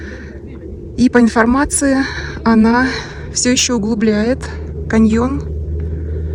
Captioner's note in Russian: тяжело вздыхает